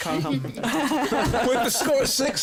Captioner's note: laughing